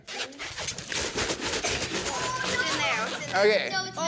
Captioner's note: liquid splashing